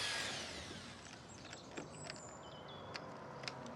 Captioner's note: power running down; clicking